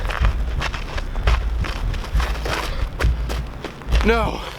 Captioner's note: gravel crunching